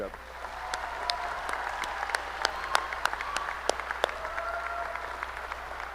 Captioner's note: applause